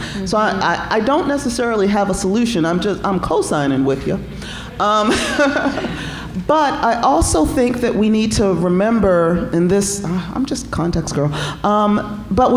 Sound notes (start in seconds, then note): 4.9 laughing